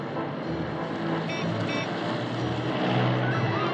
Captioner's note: car horn beeps